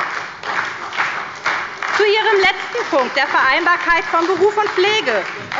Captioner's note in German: Beifall bei der SPD